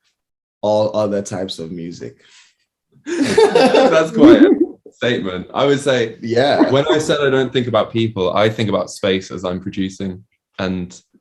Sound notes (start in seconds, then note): 3.1 laughing